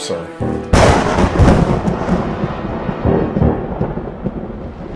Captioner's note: thunder rumbling